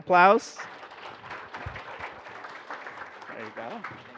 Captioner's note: applause